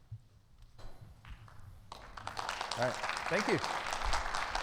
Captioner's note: audience clapping